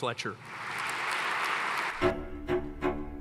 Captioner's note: audience applauding; cello music